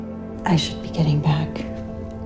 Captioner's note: voiceover